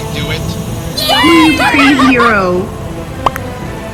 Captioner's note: cheers in laughter